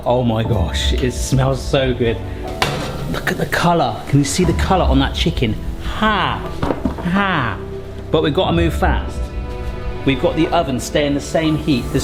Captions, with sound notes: Oh my gosh, it smells so good. Look at the colour, can you see the colour on that chicken? Hah, hah. (tray thuds) But we've gotta move fast. We've got the oven staying the same heat.